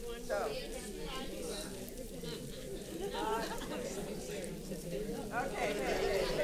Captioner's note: paper crinkling and audience chattering